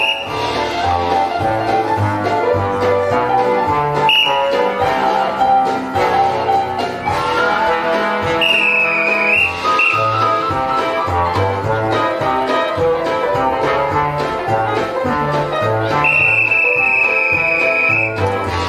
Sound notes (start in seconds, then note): 0.0 whistle; 0.3 upbeat jazz; 4.0 whistle; 4.6 upbeat jazz; 8.4 instructive whistles; 10.1 upbeat jazz; 16.0 whistle; 18.0 upbeat jazz